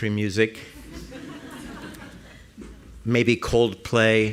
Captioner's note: laughter